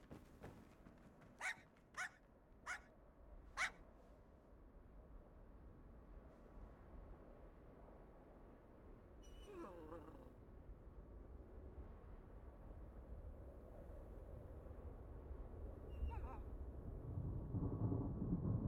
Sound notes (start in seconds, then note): 1.4 dog barking continues; 9.3 dog whimpers; 18.2 thunder rolls ominously